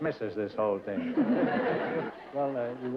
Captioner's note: laughter